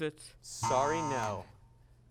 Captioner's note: buzzing sound